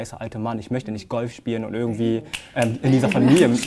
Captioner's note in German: Schnipsen